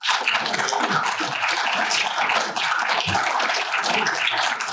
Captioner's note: applause